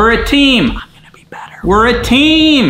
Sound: whispers

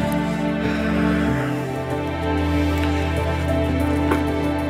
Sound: sighs

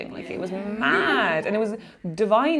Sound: laughing

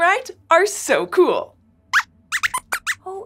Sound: squeaks squeaks

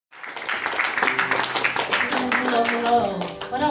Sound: applause

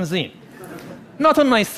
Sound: laughing

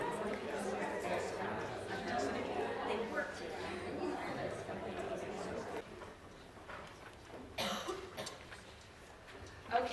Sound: crowd chattering

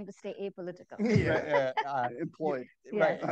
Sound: all laugh

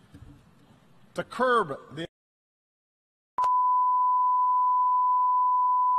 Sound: clipped audio

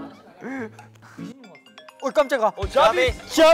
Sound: phone ringing

